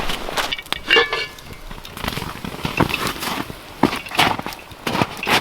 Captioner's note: metal rattling